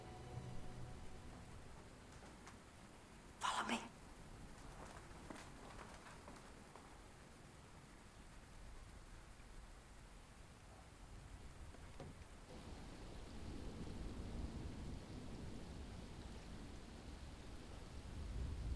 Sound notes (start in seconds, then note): 13.4 rain tapping